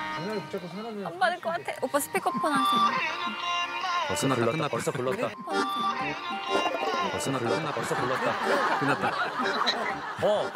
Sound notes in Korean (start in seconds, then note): 5.4 휴대전화 통화 연결음